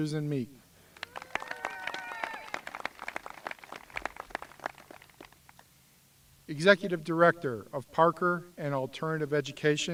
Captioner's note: applause